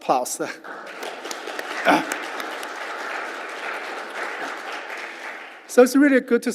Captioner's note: applause